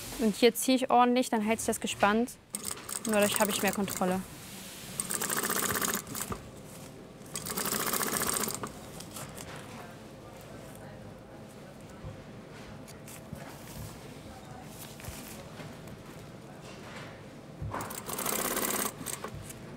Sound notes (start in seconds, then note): 17.8 machine rattling